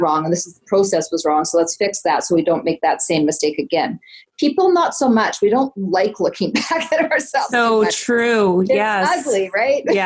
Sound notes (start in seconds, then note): 7.2 laughs